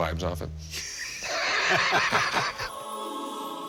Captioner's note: all laugh